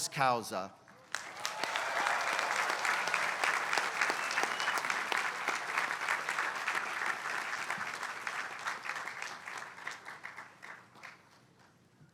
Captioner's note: applause